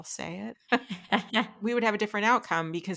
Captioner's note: laughing